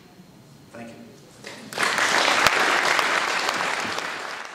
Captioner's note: audience applause